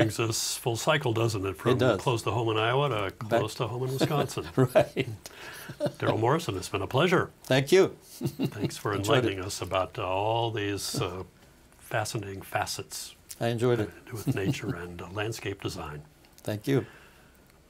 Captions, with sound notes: - Brings us full cycle, doesn't it? - It does. - From close the home in Iowa, to close to home in Wisconsin. - Right. [laughing] - Darrel Morrison, it's been a pleasure. - Thank you. - Thanks for enlightening us about all these fascinating facets. - I enjoyed it. - Having to do with nature and landscape design. - Thank you.